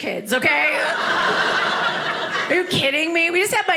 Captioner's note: audience laughing